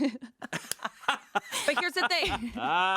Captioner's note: laughing